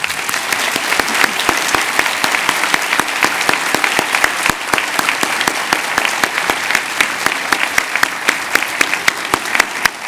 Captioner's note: cheers and applause